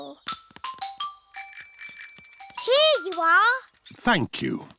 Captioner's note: bell rings